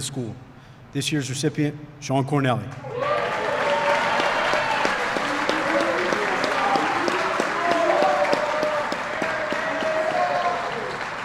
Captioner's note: applause